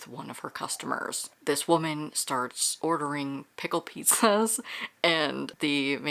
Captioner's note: laughs